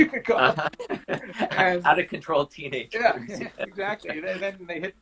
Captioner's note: laughing